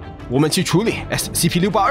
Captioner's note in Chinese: none